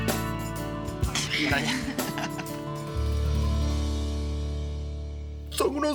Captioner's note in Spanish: Risas